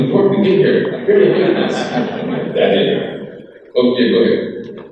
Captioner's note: crowd laughs